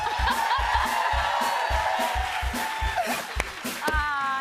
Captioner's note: cheers and applause